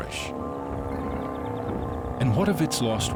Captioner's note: grumbling